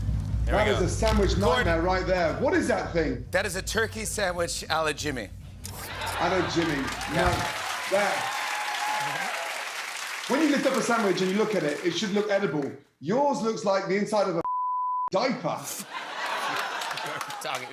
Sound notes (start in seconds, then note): 5.8 laughter; 8.1 cheers and applause; 15.6 laughter